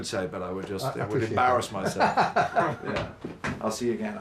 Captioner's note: laughing